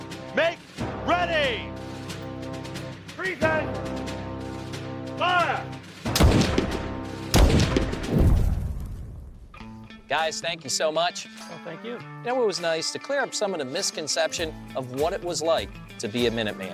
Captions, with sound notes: make ready, present, fire. (musket firing) - Guys, thank you so much. - Well, thank you. - Yeah, it was nice to clear up some of the misconception of what it was like to be a Minuteman.